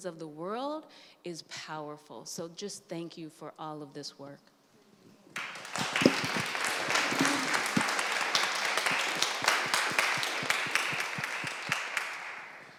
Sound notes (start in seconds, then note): 5.3 applause